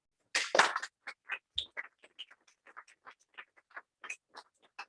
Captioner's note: applause